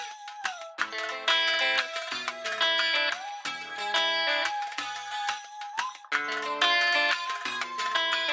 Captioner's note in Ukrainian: оплески